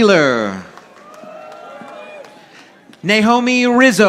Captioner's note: audience applauding